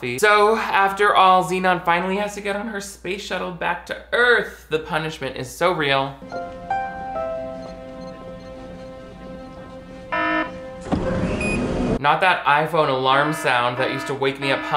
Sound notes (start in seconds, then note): 10.2 doors closing on tracks; 10.2 single alarm buzz